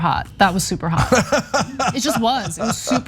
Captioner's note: laugh